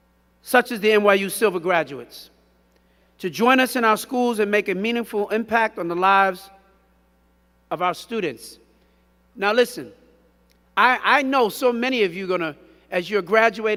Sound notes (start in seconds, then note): none